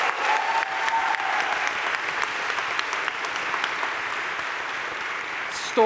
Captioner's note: crowd cheering and applauding